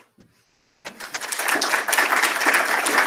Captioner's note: applause